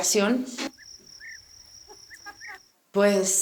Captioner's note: cricket sounds